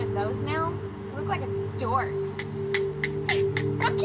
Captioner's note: tongs clacking